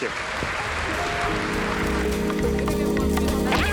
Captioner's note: audience applauding; upbeat jazz music